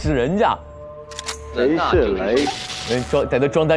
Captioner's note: electroshock